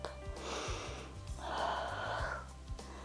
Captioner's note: inhales and exhales